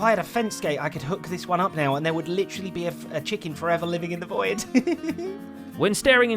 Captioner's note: giggling